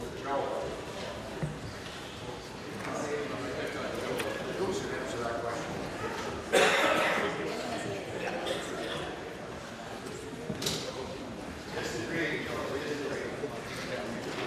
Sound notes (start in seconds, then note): 0.1 conversation din